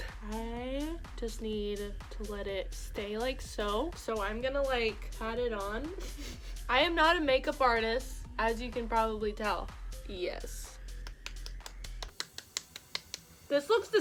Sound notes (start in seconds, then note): 11.0 slaps face